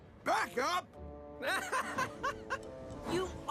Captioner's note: Thomas Laughs